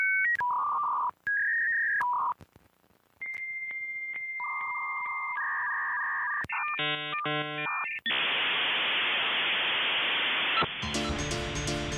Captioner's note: 1990's internet dial up sounds; signal sounds